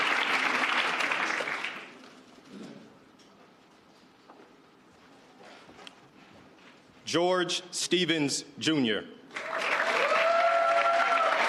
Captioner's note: cheers and applause